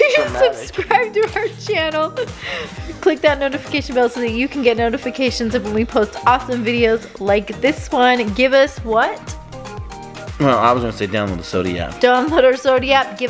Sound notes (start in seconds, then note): 0.0 chuckles